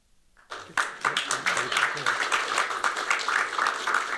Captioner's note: applause